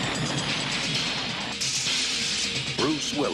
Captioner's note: bomb explodes